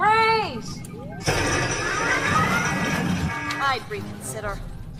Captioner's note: crash, Alarms Blaring